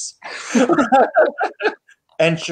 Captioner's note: laughing